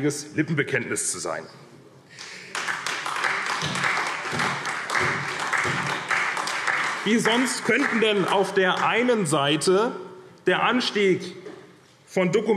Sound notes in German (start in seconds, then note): 2.2 Beifall